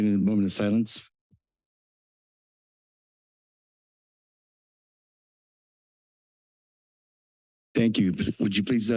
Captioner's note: silence